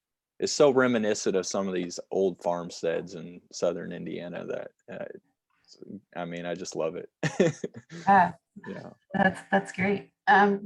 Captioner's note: laughter